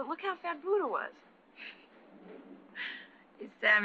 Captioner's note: soft laugh